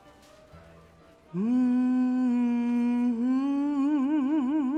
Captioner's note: humming